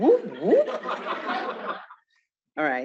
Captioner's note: laughter